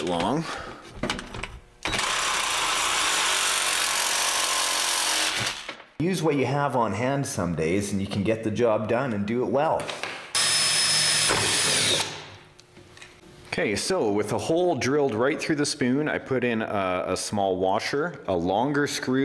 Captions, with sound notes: and through the center of the spoon to be able to mount up a tire right in the middle. (drilling)